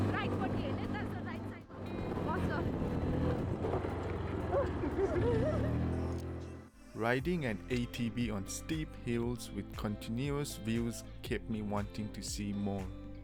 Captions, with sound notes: We turn right? So stay on the right side. *A sigh of relief* *Bursts into laughter* Riding an ATV on steep hills with continuous views kept me wanting to see more.